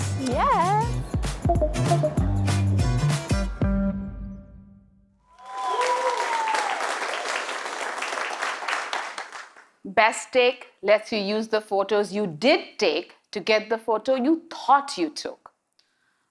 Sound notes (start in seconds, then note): 1.0 chime; 5.3 audience cheering